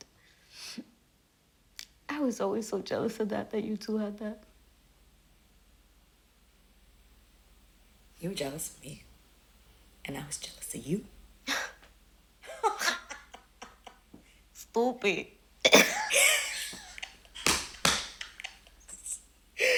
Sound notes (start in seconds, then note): 0.3 sniffles; 12.4 laughs; 12.4 both laughing; 15.7 laughing